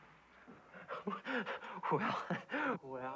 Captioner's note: breathless laugh